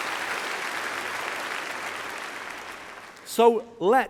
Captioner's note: applause